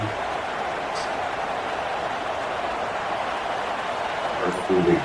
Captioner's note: crowd Noises